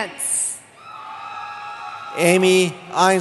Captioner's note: cheering